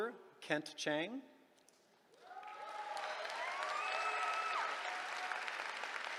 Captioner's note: cheering